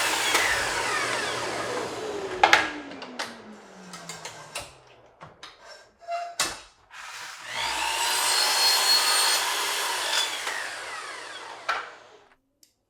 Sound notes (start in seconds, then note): 2.3 wood thudding; 3.2 saw clicking; 6.8 saw whirring